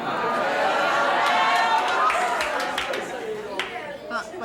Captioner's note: audience cheers